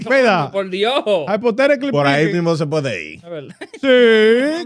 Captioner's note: speaking In Foreign Language